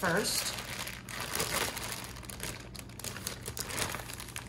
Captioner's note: bags rustling